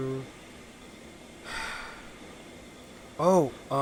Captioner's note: sigh